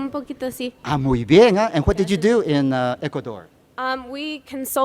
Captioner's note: speaking Spanish